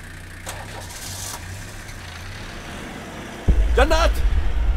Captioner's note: Door closes; Engine starts